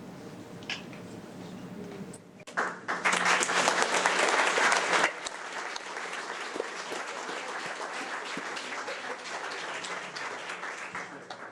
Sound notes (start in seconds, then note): 3.0 audience clapping